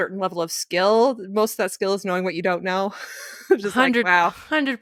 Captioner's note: giggles